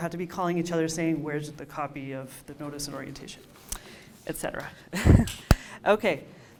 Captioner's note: laughs